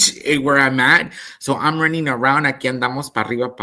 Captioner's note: speaks in Spanish